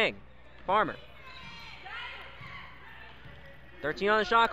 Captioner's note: crowd cheers